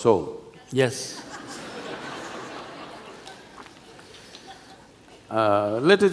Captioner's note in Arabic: ضحك